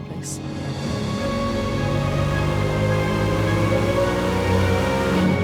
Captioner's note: motorcycle engine roaring